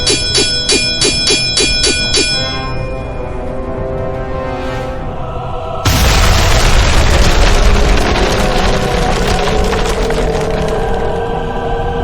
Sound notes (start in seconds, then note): 5.8 explosion booming